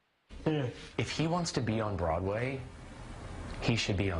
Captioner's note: voiceover